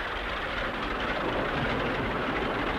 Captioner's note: car